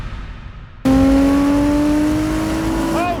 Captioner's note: engine roaring